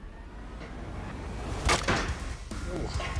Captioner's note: clank